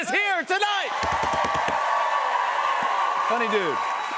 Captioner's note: cheers and applause